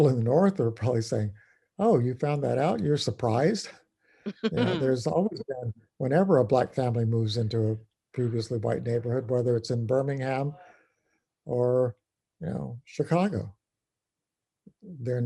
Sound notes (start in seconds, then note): 4.4 laugh